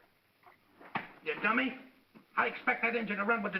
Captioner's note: smack